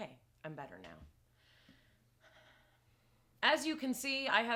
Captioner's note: slowly breathing